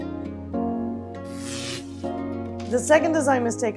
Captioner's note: gentle music; buzzing